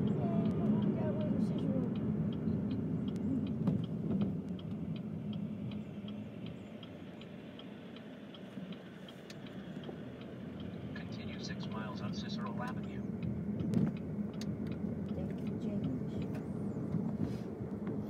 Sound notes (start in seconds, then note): 10.7 GPS talking